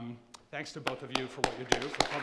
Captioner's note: all applauding